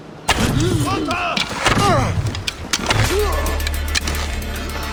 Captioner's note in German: stöhnen